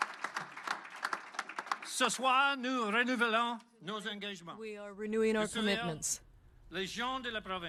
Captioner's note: applause